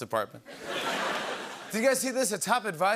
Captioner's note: laughter